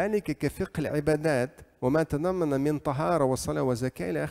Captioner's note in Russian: говорит на арабском